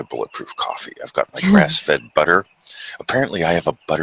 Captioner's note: chuckles